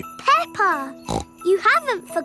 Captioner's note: snorts